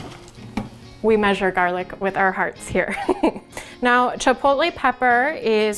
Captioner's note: laugh